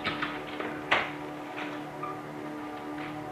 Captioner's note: door opening